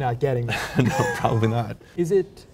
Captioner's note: chuckles